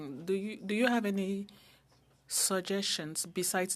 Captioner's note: speaking French